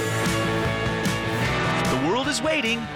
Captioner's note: plane engine